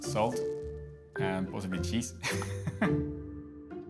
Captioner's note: laughs